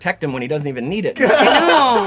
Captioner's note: all laugh